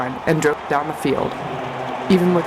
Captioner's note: crowd noise and cheering